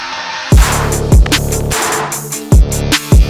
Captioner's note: gun firing